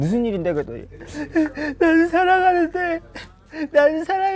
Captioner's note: sob sob